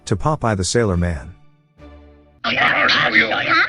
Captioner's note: background wrangling